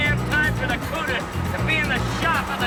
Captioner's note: laughing